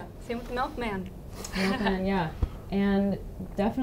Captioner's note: laughing